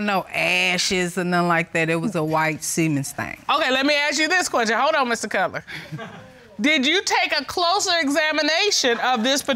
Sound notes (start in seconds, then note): 6.4 audience chuckling